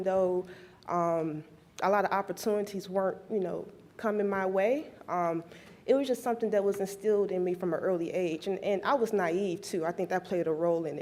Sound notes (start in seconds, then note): none